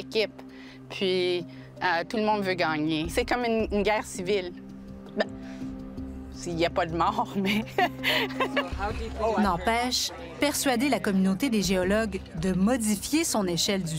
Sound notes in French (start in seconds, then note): 7.6 rire